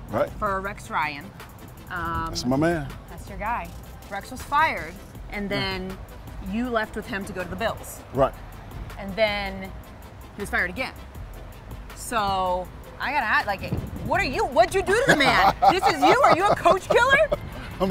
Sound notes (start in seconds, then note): 14.9 Anthony laughs